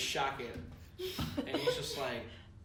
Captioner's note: giggles